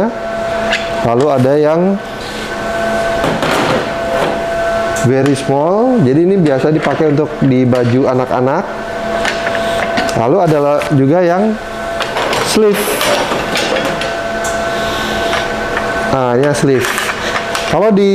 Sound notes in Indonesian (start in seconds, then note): 0.2 suara platen dicabut; 4.1 suara platen dipasang; 8.9 suara platen; 11.7 suara platen dipasang; 15.0 suara platen